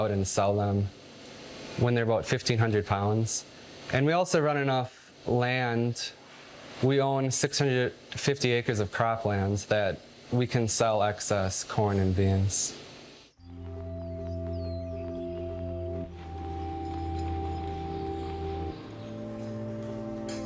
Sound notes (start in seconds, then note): 13.3 birds chirping; 13.4 upbeat music